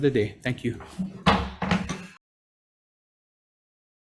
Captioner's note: gavel bangs